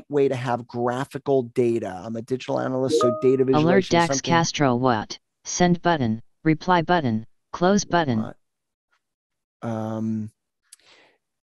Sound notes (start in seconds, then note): 3.7 computer Voice